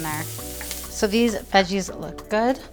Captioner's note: pan sizzling